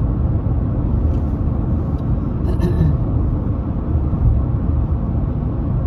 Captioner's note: clears throat